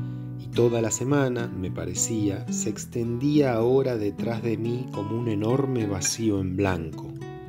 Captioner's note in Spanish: none